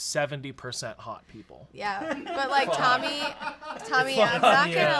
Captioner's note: laugh